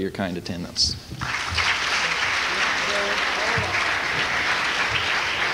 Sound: applause

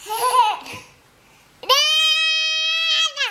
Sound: giggles

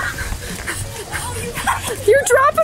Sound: breathing heavily

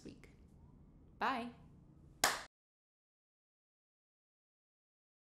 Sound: hands clap

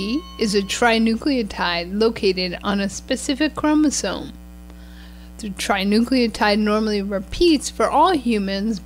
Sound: bell ring

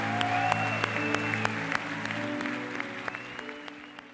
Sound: applause

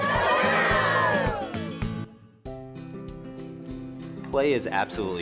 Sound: children shouting the word "KaBOOM"

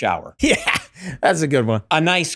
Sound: laughs

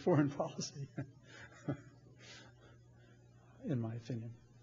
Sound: laughs

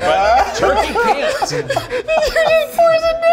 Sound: all laughing

